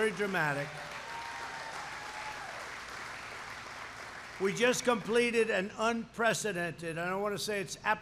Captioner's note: applause